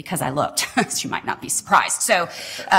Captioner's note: laughter